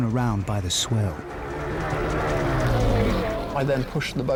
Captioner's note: engine rumbling